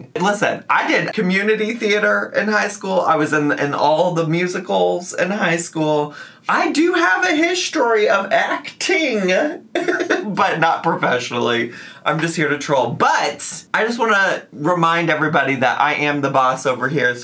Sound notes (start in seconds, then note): 9.8 laughs